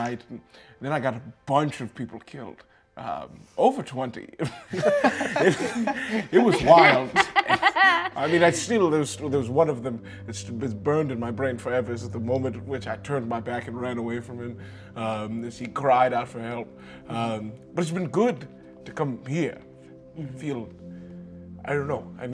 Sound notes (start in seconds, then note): 4.5 laughs